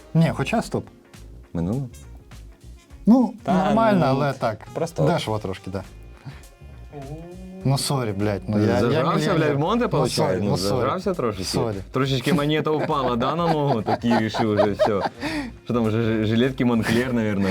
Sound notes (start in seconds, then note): 15.0 laughter